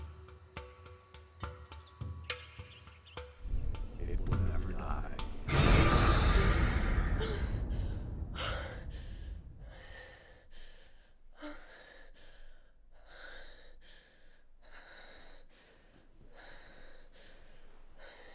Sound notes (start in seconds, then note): 5.2 creepy music; 5.8 gasping and panting